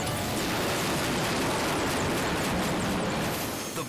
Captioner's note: helicopter crashing